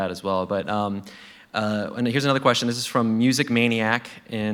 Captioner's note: none